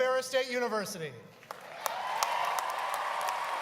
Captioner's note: applause